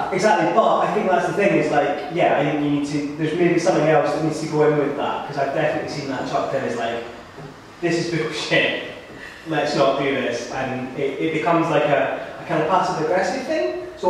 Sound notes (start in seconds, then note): 8.9 laughing